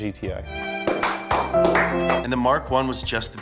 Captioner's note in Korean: 억지박수